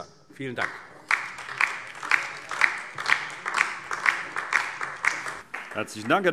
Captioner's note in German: Beifall DIE LINKE und SPD